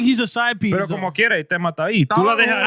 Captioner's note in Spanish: Hablando en idioma extranjero